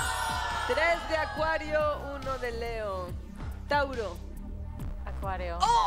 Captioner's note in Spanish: Exclamaciones